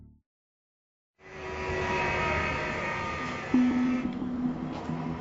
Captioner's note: machine humming